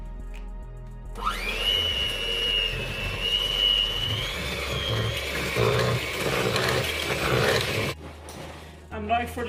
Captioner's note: mixer buzzes